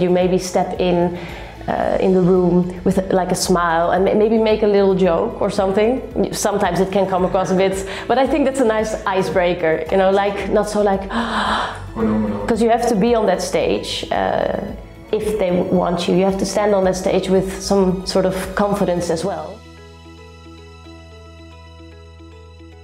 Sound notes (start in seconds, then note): 9.7 terrified